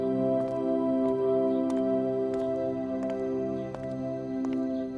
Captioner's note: footsteps approaching